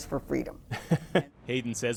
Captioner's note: laughter